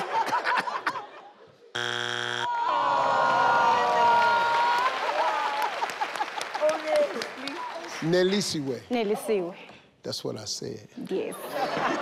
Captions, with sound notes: (failure buzzer buzzes) (audience groans) - Nelisi-we. - Nelisiwe. - That's what I said. - Yes.